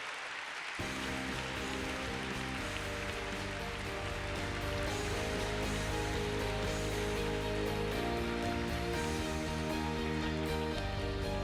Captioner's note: applause - Music